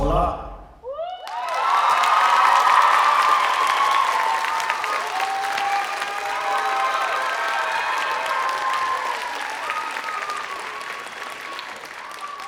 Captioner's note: applause